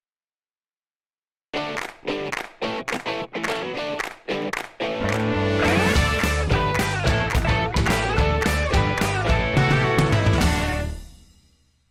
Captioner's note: claps